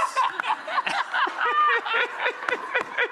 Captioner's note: laughs